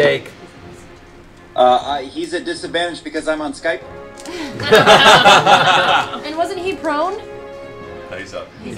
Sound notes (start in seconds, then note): 4.4 laughter